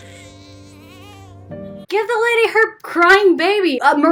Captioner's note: none